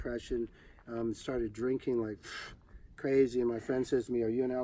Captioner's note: exhales loudly